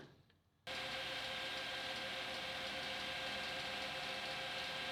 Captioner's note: lathe whirring